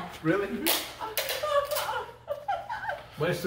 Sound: mom, laughing

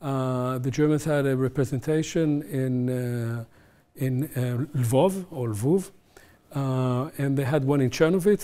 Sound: german

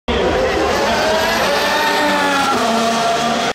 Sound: loud engine noises

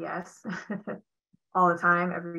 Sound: chuckling

